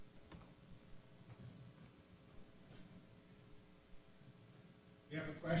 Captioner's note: pause